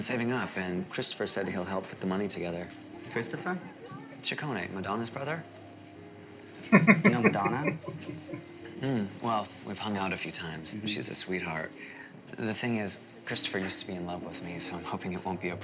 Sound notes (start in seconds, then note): 6.6 chuckling